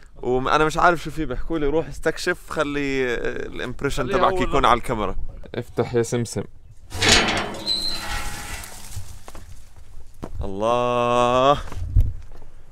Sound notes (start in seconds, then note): 6.9 door creaking